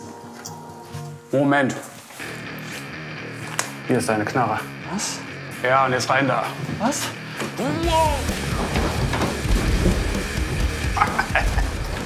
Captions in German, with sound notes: Moment. (Fetzige Rocktöne) Hier ist deine Knarre. Was? - Ja, und jetzt rein da. Was? (Fetzige Metalmusik) (Krachen) Uhh ... (Finsteres Kichern)